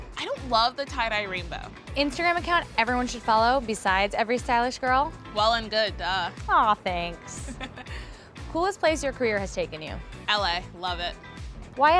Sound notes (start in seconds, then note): 7.4 laughs